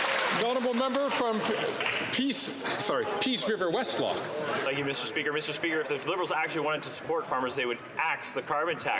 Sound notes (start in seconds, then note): 3.1 some Applause